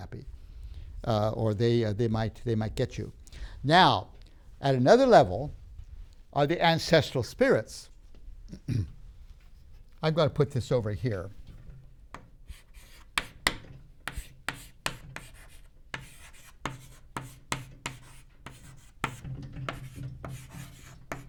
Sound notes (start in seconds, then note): 8.5 clears throat; 14.0 writing sounds